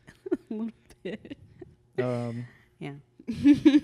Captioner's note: laughs